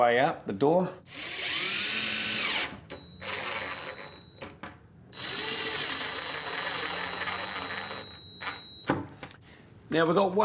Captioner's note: drill